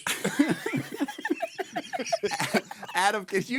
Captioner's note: laughing